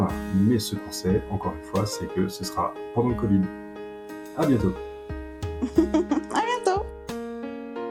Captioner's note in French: rires